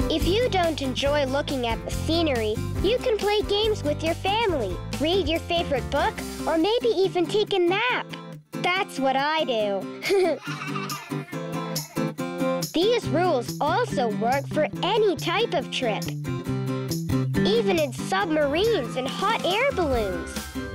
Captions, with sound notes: If you don't enjoy looking at the scenery, you can play games with your family, read your favorite book or maybe even take a nap. That's what I do. (laughs) (children laughing) These rules also work for any type of trip, even in submarines and hot air balloons.